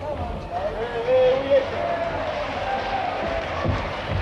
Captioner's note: all cheering